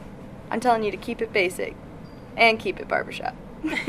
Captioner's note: laughs